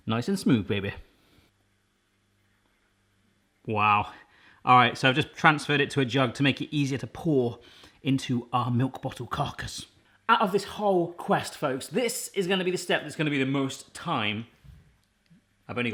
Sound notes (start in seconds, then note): none